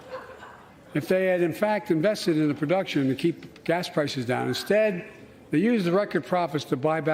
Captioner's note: laughter